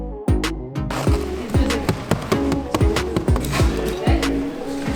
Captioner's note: all chattering